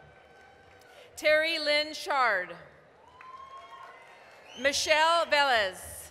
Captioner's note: applause, cheering